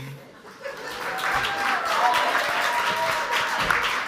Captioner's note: audience applauds